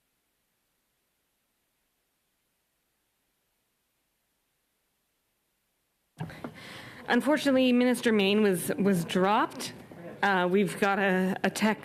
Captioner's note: silence